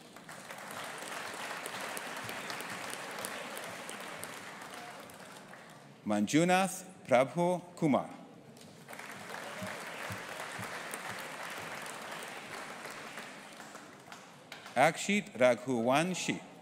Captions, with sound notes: (AUDIENCE APPLAUDING) Manjunath Prabhu Kumar. (AUDIENCE APPLAUDING) Akshit Raghuwanshi.